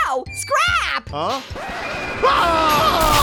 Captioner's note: record scratches; building collapsing; yells